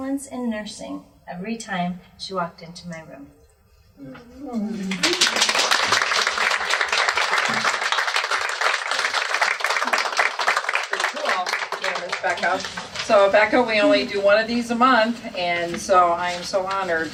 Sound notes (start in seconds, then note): 4.9 applause